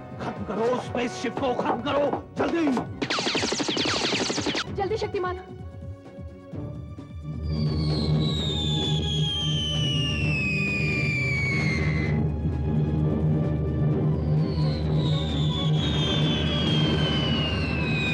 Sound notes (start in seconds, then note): 3.0 gunfire